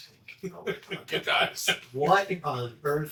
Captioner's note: laughing